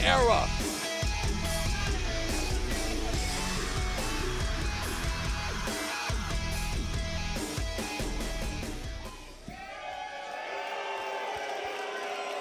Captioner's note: crowd cheering